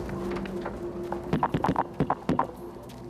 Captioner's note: tapping on a microphone